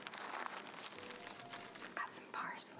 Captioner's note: plastic bag crinkles